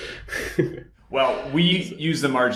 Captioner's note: laughing